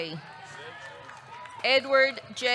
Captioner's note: audience cheering